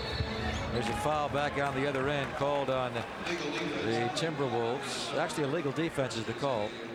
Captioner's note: whistle